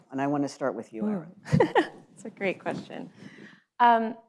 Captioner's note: laughs